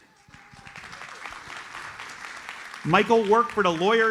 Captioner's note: audience applauds